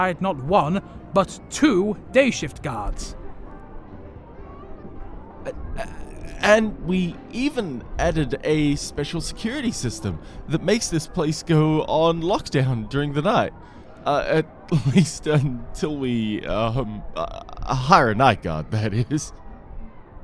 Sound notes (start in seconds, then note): 15.4 chuckles